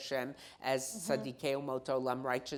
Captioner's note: speaking in foreign language